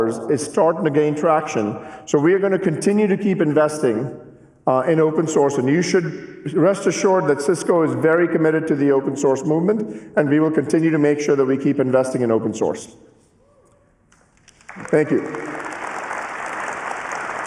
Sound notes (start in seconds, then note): 10.7 cheers and applause